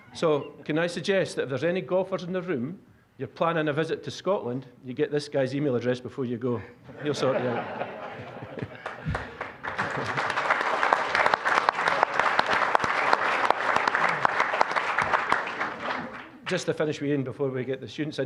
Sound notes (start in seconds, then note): 6.9 audience laughing; 8.6 applause